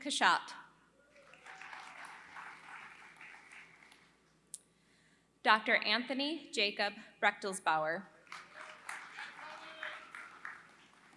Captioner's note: applause